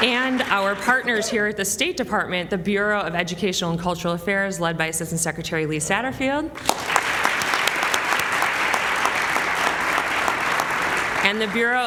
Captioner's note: applause